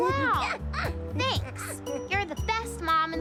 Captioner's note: laughing